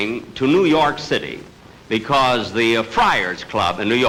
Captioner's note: none